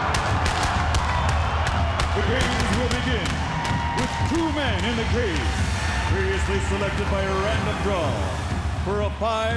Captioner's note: crowd cheering